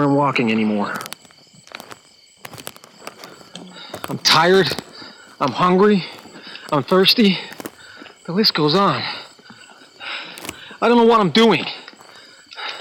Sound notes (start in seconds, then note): 0.7 static crackling; 9.4 footsteps crunching